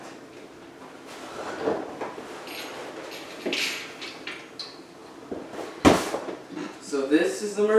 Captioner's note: mattress moving, landing